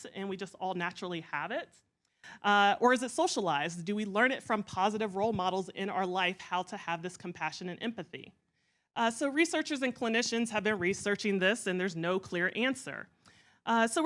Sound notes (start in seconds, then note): none